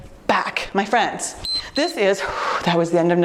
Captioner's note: timer beeps